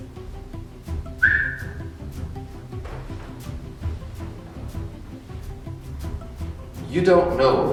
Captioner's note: whistles